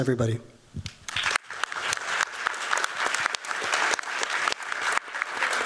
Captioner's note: applause